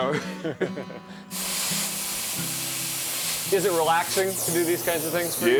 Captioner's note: torch hissing